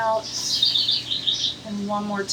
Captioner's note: bird chirps